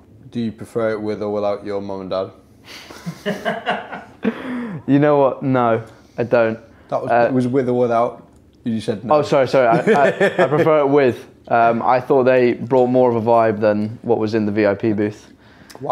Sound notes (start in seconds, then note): 2.8 all laugh; 9.6 laughing